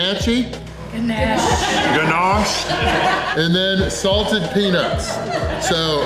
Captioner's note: crowd laughter